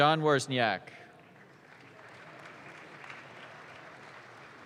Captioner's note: audience claps